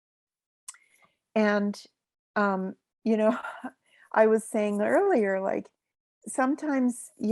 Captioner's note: chuckles